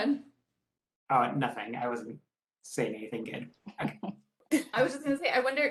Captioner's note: laughing